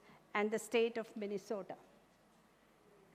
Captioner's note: none